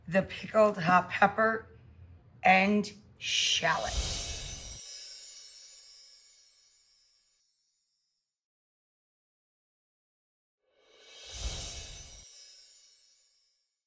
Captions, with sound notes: the pickled hot pepper and shallot. (chimes plays) (chime plays)